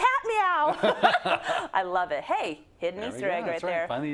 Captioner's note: laugh